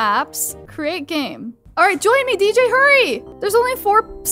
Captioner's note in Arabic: none